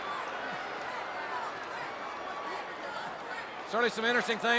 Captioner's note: crowd chattering